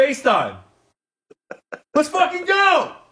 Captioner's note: laughs